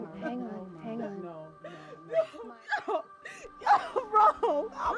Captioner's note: sobbing